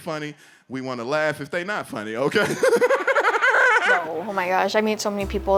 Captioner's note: laughing